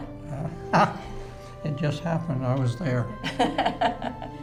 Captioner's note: laughing